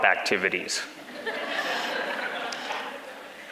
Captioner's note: background laughters